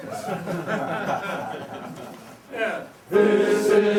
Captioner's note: crowd laughing